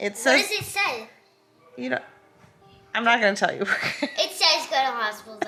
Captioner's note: laughs